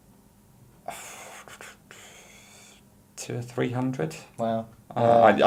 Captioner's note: sighing